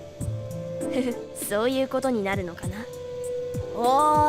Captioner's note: chuckle